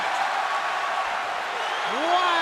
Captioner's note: cheers and applause